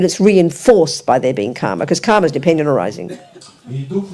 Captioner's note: speaking in French